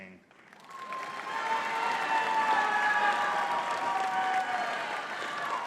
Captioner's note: audience cheering and clapping